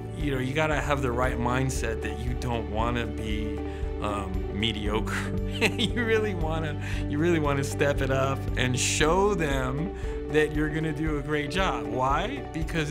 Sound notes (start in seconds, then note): 5.5 laughs